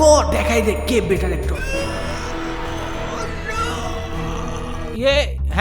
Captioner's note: struggling sound